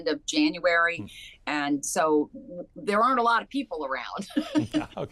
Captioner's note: laughs